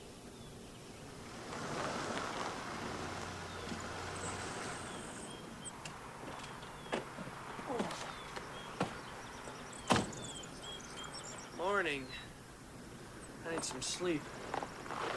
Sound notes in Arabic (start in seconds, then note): none